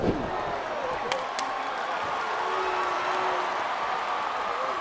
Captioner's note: crowd cheering